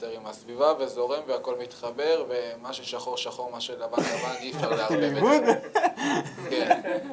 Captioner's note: laughs